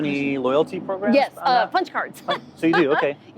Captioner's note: laughing